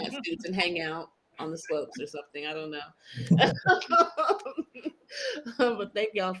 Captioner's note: laughs